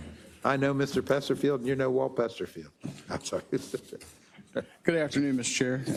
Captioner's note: laugh